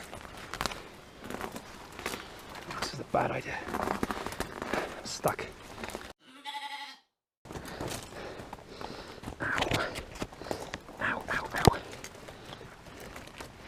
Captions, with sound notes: This was a bad idea. I'm stuck. [rogue sheep bleat] Ow... ow ow ow!